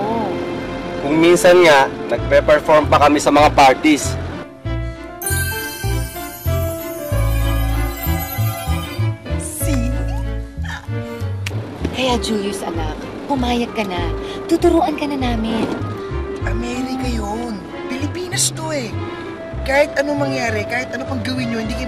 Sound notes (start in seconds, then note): 5.2 tinkling; 10.5 Aida chuckles